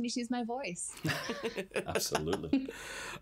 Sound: laugh

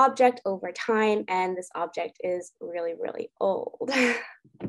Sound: chuckles

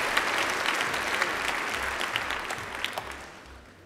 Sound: applause

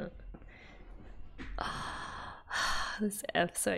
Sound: long sigh

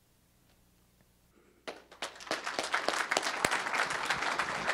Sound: applause

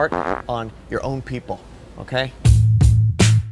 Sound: farting noise; upbeat drums

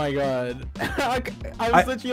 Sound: laughs

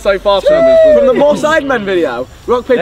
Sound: men cheering

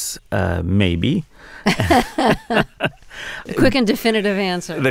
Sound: laughter

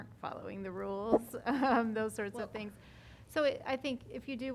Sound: laughter

